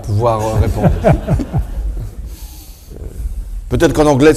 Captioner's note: everyone laughs